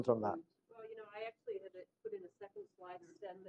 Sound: off microphone

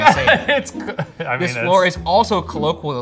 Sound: laughing

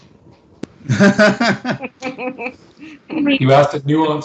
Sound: laughs

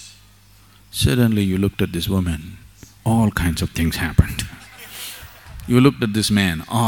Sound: laughter

